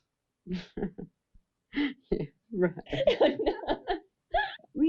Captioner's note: all laughing